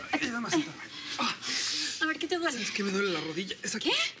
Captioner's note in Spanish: quejidos